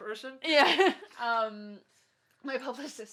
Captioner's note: laughs